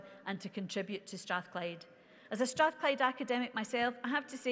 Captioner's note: none